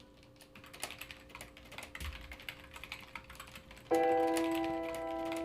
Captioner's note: computer keyboard clicking; gentle thoughtful music